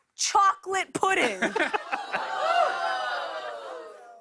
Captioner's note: audience ohhs